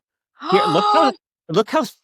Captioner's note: gasps